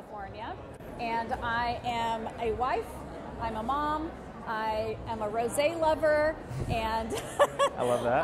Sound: laughter

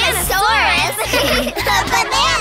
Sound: laughing

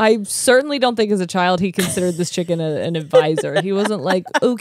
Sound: laughs

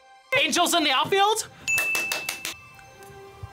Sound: bell rings

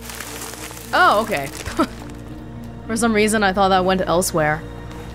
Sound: chuckles

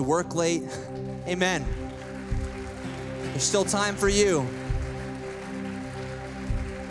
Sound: applause

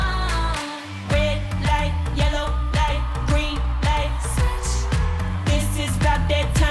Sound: ooh

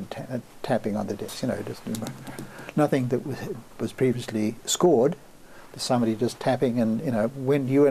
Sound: tapping

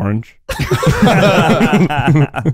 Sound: laughing

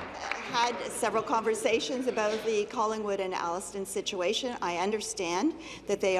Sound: applause

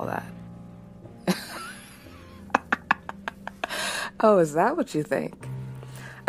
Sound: laughs loudly

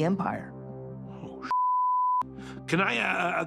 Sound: beep

